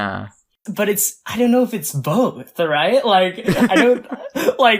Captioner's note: laughs